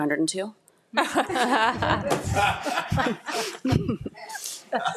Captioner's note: attendees chuckling